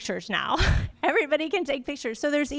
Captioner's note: laughter